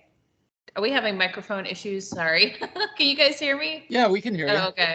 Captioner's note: laughing